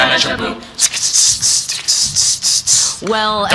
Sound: imitating percussion

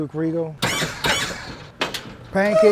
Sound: hydraulics hissing

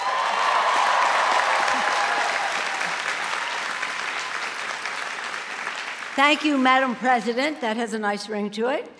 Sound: cheers and applause

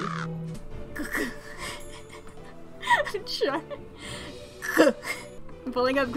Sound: makes "guh" noises while laughing

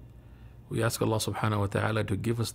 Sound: man speaking in foreign language

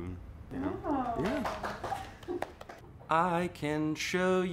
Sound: applauding

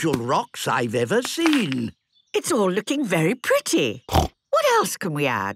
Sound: snorting

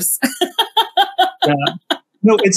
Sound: laughs

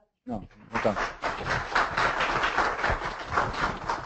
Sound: audience clapping

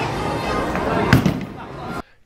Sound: bowling

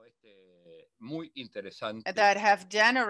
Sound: speaks foreign language

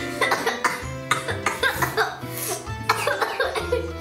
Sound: coughing

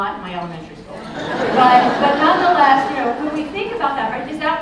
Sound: laughter

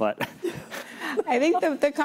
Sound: laughter

